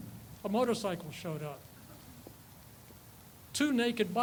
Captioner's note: person laughs